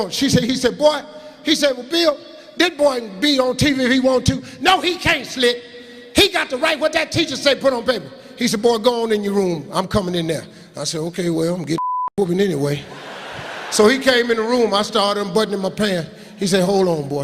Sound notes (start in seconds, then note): 11.8 beeping